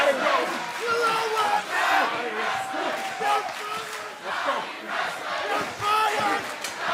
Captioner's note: fans chanting